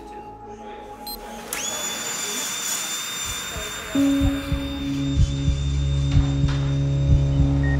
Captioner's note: people chattering; machine beeps; machine whirling